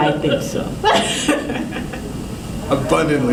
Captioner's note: laughter